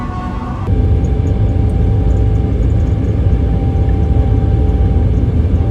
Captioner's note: plane engine rumbling